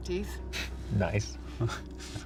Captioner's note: Brent chuckles